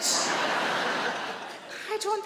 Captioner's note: audience laughing